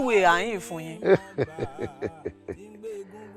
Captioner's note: laughs